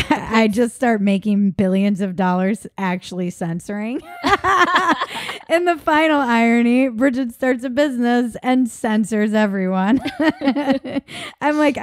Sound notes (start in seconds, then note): 4.0 laughing; 9.7 laughs; 9.9 laughing